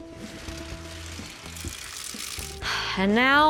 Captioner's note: water running